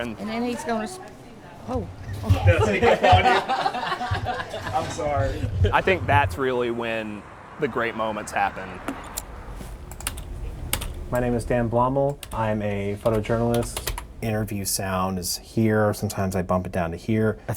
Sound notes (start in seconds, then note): 2.9 crew laughing; 10.6 equipment clicking